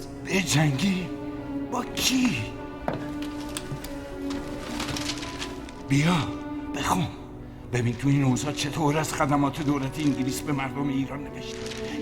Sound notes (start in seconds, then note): 4.5 paper rustling